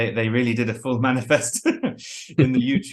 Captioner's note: laughs